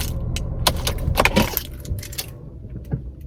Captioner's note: keys turn